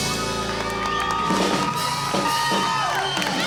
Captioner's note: crowd cheers